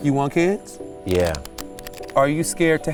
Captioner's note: cards shuffle